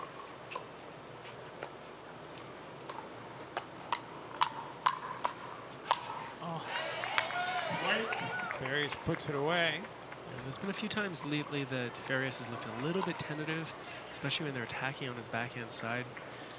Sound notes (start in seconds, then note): 6.5 audience cheering and clapping